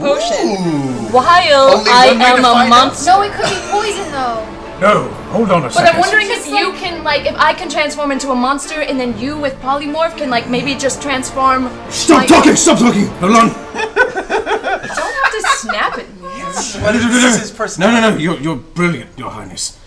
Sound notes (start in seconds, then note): 13.7 laughter